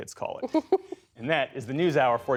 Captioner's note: laughter